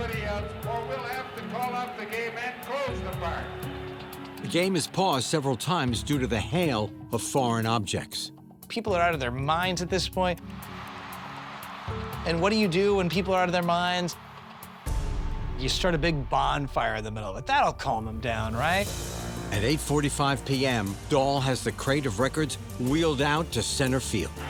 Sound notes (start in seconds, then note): 10.5 crowd clamoring